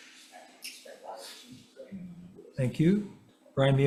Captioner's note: faintly speaking